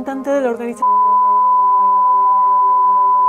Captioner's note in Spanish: beep